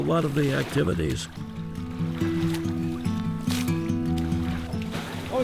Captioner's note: water splashes